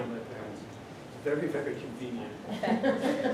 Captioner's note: laughter